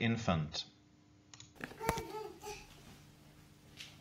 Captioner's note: babbling